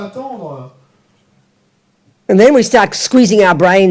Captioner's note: French